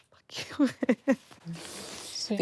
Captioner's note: laughs